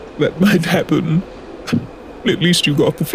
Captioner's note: laugh